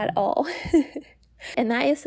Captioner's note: laugh